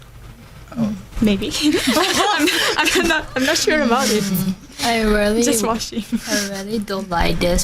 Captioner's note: laugh